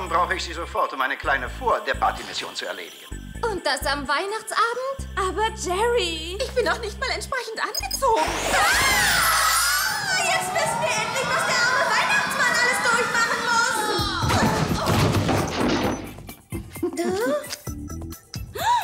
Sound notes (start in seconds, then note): 13.6 scream